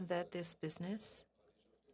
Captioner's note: speaking French